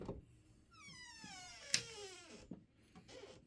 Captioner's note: door creaking, light clicks on